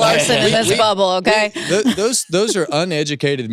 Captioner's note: chuckles